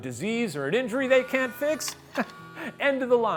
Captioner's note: chuckles